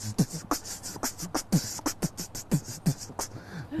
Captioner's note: beatboxing